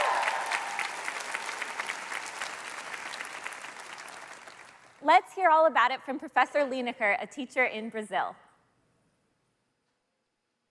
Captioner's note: cheers and Applause